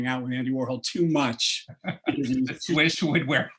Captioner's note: laughter